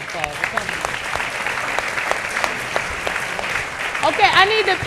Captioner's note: audience clapping